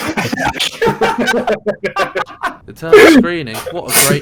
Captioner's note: laughter